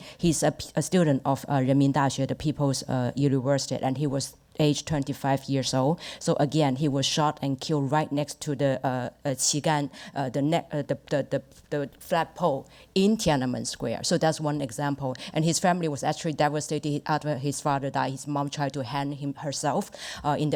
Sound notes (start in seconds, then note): 9.2 speaks Mandarin